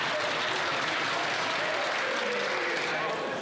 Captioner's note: applause